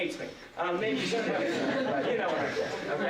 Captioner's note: laughter